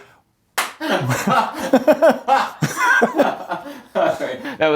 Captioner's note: laughs